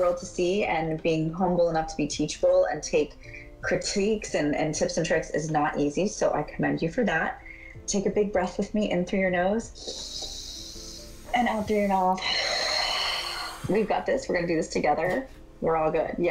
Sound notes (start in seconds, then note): 11.8 exhales; 12.1 inhales